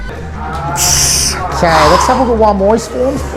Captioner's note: grunting